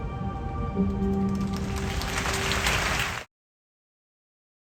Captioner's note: applauses